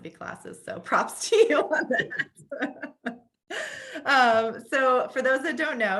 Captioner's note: laughs